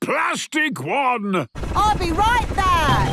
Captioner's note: none